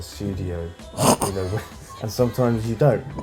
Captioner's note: laughs